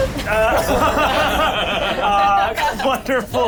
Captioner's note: laughs